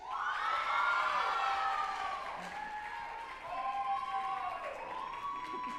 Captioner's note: group applauding and cheering